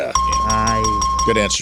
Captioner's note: bell ringing